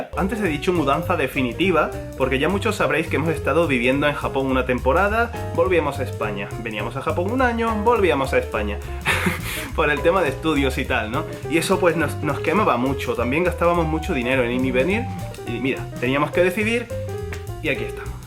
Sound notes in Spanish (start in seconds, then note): 9.0 ríe